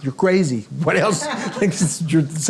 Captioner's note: audience and Daniel laughing